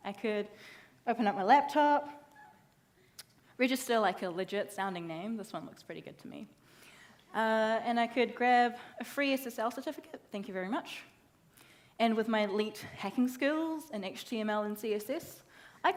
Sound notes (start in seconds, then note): none